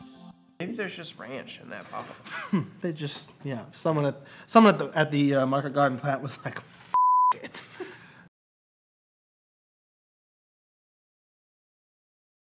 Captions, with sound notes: Maybe there's just ranch in that bottle They just, someone at the market garden plant F(beep) it